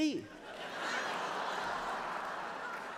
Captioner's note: laughter